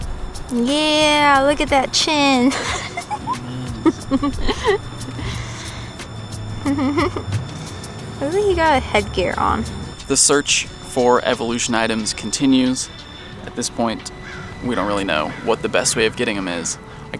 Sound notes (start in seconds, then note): 2.3 giggles; 7.8 mumbles